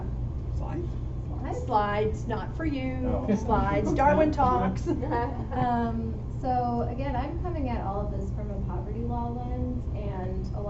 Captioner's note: laughter